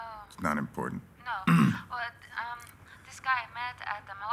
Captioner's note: clears throat